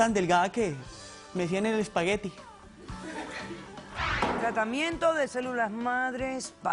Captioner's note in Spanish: Risas